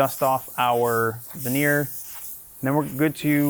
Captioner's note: air spraying